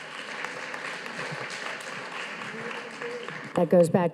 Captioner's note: audience applauding